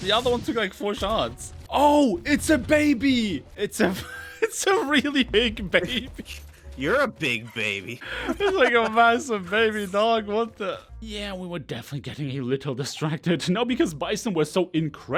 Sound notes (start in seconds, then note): 4.9 wheezing; 8.0 laughs